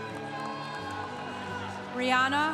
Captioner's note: congregation cheering